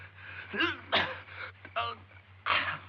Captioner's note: Romano choking